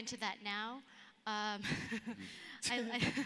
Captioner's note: laughs